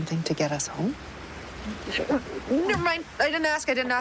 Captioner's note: gagging